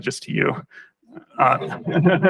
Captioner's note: laughter